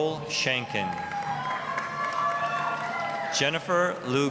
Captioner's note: applause, cheering